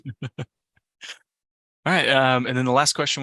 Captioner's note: laughs